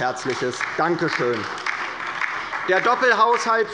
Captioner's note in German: Beifall bei der LINKEN